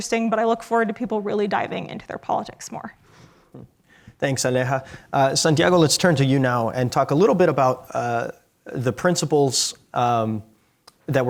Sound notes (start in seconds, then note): none